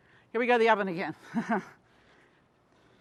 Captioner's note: chuckles